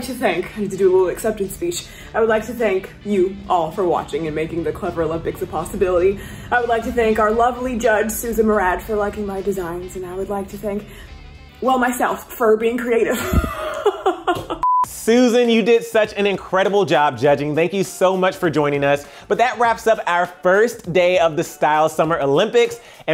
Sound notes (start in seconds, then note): 13.1 laughs